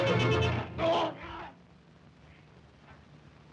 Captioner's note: Zaroff yelps